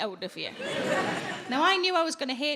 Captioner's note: audience laughing